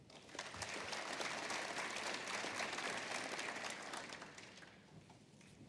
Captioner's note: applause